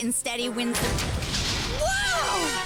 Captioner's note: mechanical whir and thud